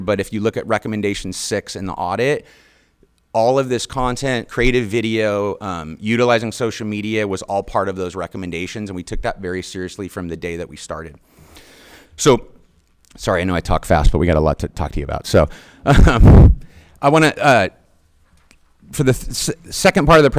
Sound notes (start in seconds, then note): 15.8 chuckles